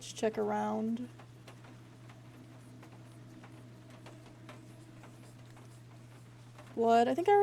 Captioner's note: whispers Continue